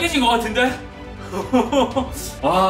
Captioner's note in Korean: 웃음 소리